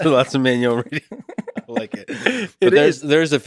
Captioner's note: Lex laughs